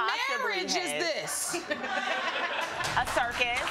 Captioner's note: audience laughing